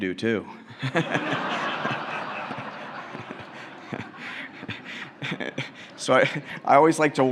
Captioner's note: laughter